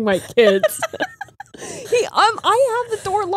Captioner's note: all laughing